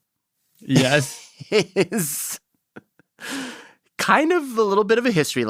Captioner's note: laughs